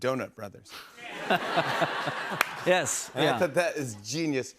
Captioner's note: laughter